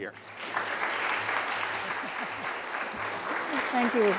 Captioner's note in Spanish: aplausos